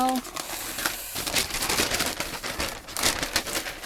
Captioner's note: paper rustling